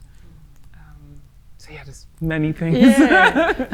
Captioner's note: laughs